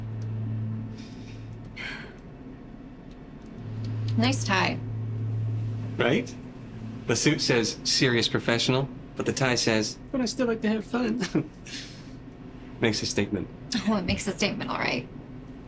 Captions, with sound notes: [takes deep breath] Nice tie. Right? The suit says serious, professional, but the tie says but I still like to have fun. Makes a statement. Oh, it makes a statement, all right.